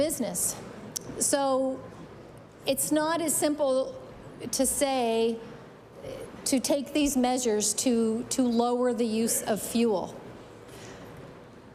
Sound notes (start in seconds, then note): none